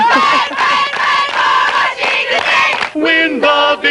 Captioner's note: shouting